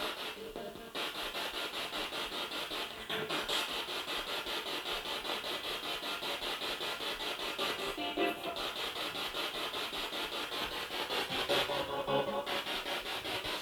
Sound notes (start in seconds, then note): 3.1 sound of the Spirit Box in the background